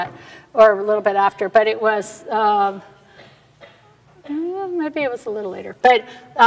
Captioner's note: quietly